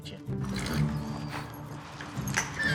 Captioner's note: horse grunts; horse neighs